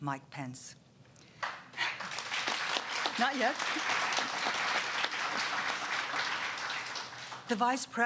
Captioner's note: applause